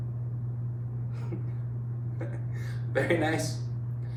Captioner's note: laughing